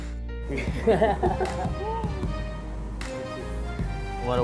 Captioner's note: laughter